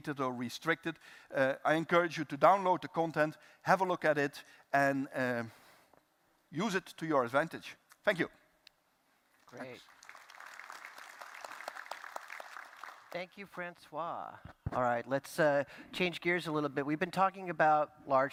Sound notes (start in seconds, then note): 9.4 applause